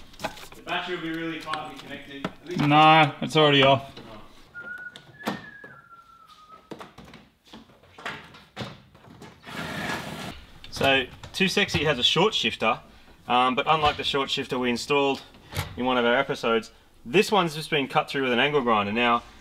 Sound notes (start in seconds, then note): 4.5 whistles; 9.5 battery-powered drill